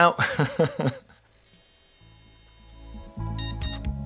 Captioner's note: laughs; buzzing